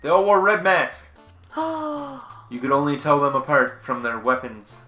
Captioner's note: gasp